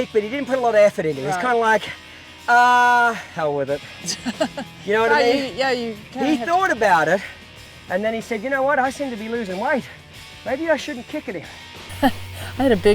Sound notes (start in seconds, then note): 4.0 laughs; 11.9 chuckles